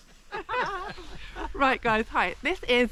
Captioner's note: laughing